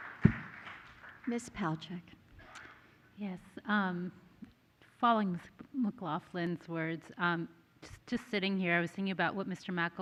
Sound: applause

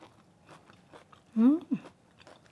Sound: chewing

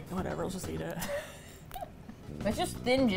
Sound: laughs

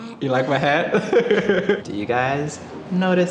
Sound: laughing

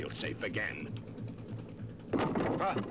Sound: oar clatters

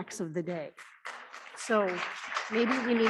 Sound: audience clapping

